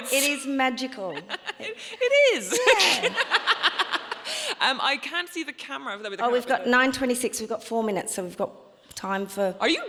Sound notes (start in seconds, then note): 0.7 laughing